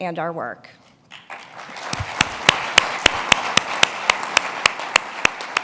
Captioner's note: applause